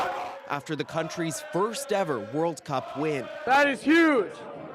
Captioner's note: cheers and applause